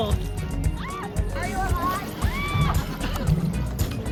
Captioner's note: first of much screaming; more screaming